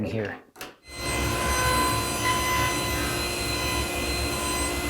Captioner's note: cutter whirring